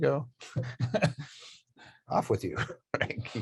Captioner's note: chuckling